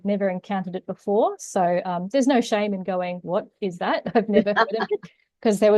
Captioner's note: both laugh